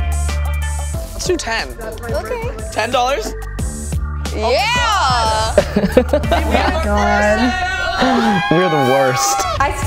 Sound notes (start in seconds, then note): 5.4 laughs